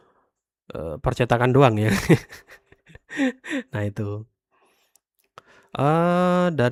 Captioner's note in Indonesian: tertawa